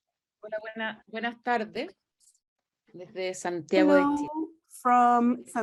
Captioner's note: speaks foreign language